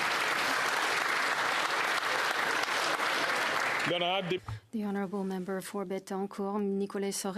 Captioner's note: applause